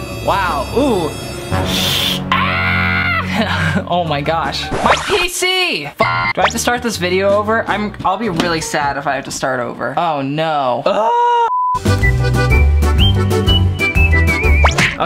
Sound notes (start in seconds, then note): 2.2 screams; 6.1 metallic grinds; 10.5 sighs in disgust; 11.6 upbeat whistling